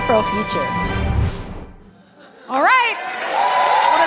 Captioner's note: cheering and applause